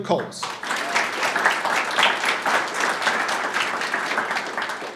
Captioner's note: audience applauding